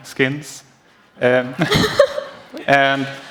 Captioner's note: laughter